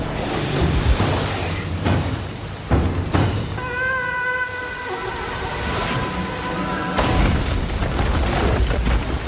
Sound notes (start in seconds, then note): 3.6 horn